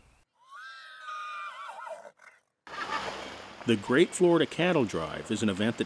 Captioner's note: mule whinny